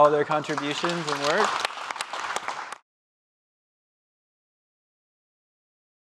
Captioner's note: audience applauding